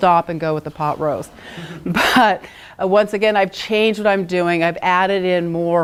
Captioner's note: laugh